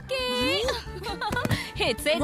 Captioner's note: Laughs